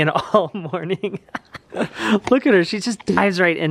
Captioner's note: laughing